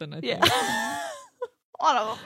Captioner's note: laughs